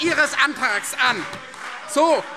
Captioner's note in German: Beifall Freie Demokraten - Zurufe AfD